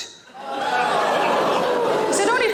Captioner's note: audience exclaims